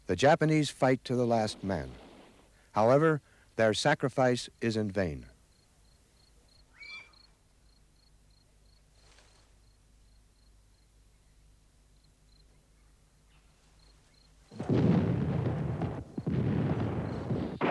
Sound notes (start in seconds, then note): 6.7 bird squawks; 14.5 cannon blasts; 14.5 gun pops; 17.5 gun bangs